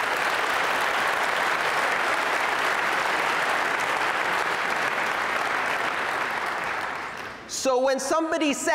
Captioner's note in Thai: ผู้ฟังปรบมือ